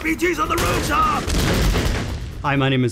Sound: guns combat sounds

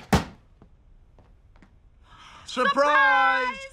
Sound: gasps

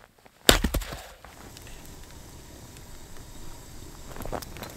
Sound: kettle hissing

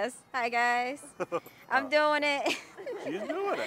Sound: laughing

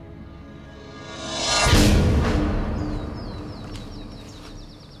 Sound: air whooshing

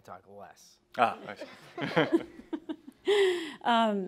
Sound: laughter

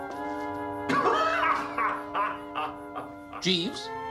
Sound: man laughing

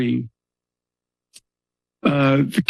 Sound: pause

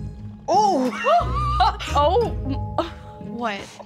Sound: Simone laughs

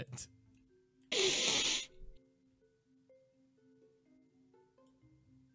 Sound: sniffing

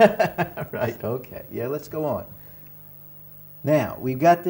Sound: laughs

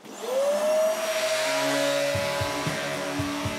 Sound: sanding machine whirrs

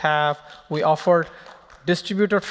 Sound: applause

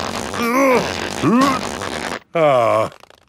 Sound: grunting

